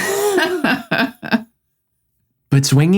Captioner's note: both laugh